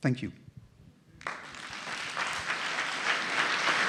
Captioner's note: applause